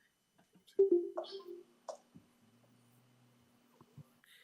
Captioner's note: computer chiming